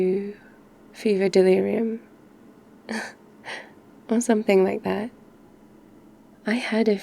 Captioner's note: laughs